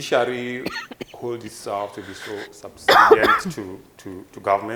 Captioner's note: woman coughing blocks audio